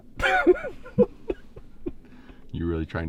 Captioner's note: laughing